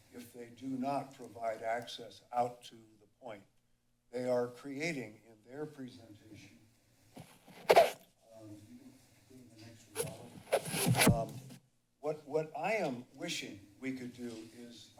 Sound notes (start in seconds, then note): 6.7 pause